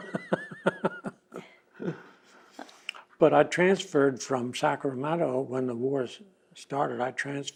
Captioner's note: laughs